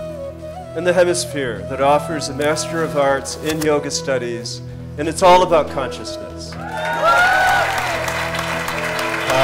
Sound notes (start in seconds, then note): 6.5 cheers/Applause